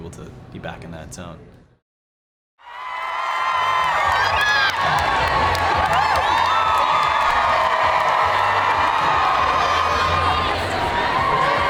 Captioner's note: fans cheering